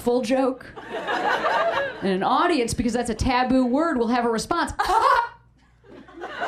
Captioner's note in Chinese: 尷尬笑